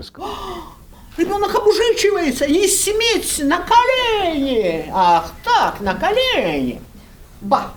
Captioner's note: in Russian